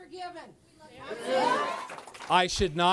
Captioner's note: cheers, applause